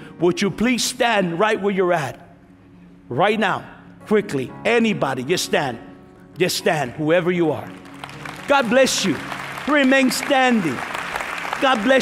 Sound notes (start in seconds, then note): 7.7 applause